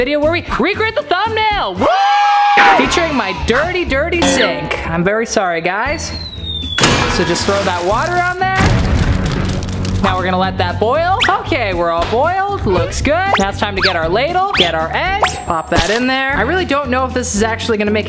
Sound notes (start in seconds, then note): 6.3 crashing